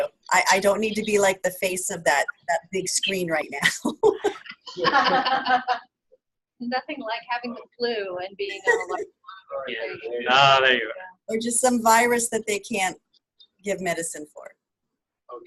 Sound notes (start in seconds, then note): 4.0 laughs